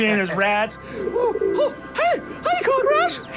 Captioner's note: cooing noises